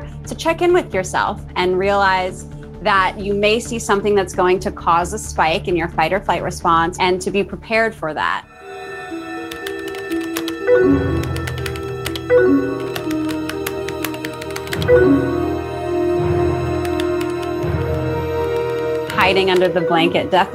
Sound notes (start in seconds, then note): 9.3 keyboard typing; 14.7 AOL messenger notification